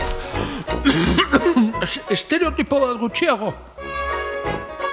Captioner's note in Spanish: eztulka